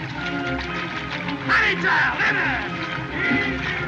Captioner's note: shouts